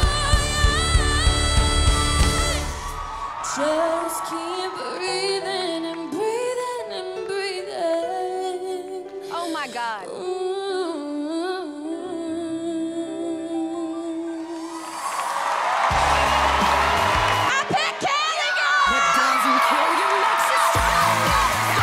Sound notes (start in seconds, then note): 14.5 cheers and applause; 18.0 shrieking